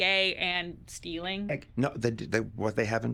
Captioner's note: stammering